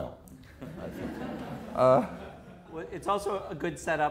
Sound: audience laughter

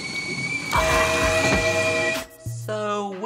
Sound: screaming

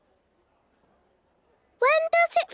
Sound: silence

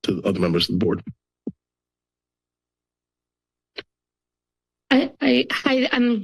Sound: silence

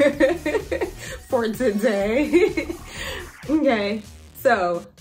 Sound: mumbles

